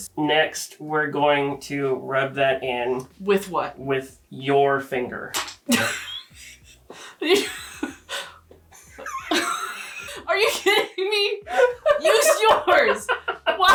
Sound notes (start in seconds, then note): 5.9 both laughing